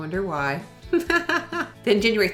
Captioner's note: laughing